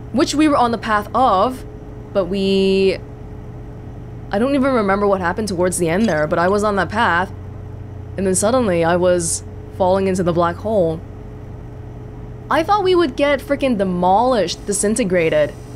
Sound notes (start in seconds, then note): none